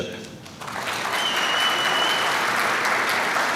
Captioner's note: applause